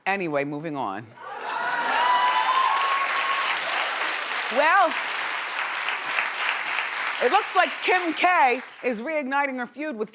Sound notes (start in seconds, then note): 1.2 audience cheering